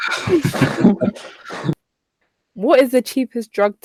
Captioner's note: laughter